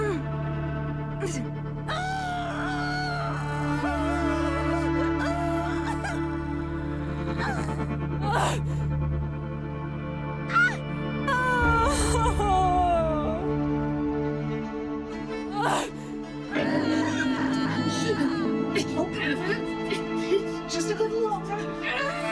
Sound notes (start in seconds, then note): 10.5 Maya whimpers and sobs; 16.9 Maya shrieks